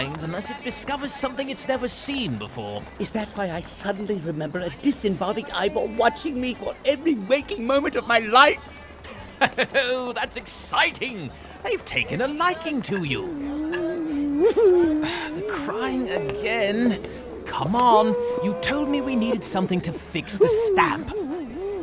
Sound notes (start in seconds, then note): 13.6 horatio begins crying